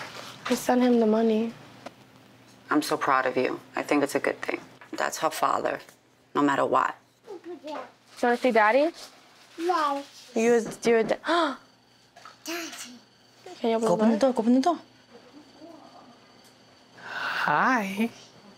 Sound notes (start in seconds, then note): 10.9 knocking